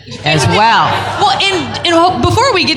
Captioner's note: laughter